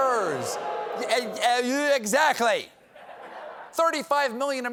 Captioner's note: audience reacts